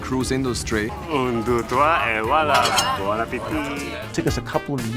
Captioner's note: speaks in foreign language